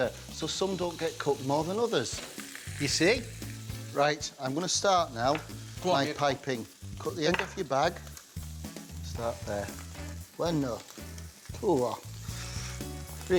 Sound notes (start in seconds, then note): 3.1 scallops sizzling; 9.3 speaks in foreign language